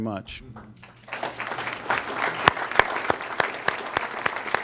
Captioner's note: applause